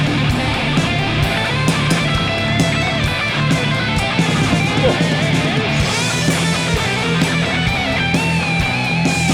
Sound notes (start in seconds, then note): 0.1 footsteps thumping; 4.9 sighs